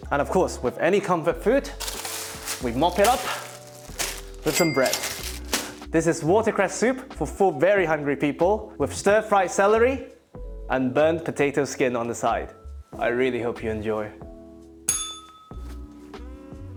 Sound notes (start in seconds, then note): 14.9 bell rings